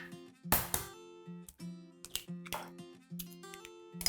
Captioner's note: egg cracking